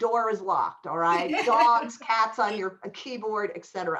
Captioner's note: laughter